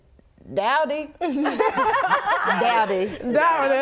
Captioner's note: laughing